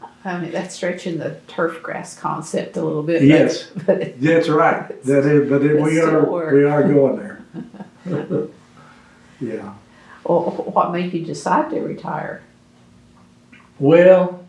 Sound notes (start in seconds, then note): 8.7 laughs